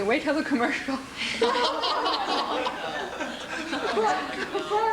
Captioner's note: room laughing